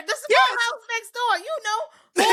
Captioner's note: laughing